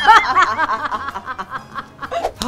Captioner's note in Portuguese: risadas